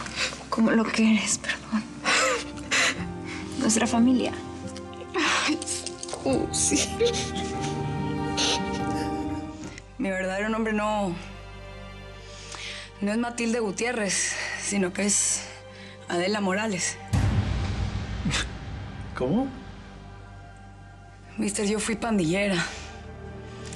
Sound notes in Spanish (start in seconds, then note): 6.3 sollozos